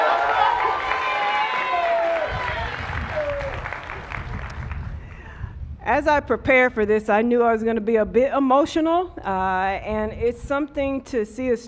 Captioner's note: cheers and applause